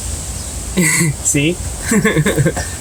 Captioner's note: laughs